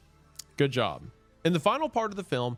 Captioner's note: clicks tongue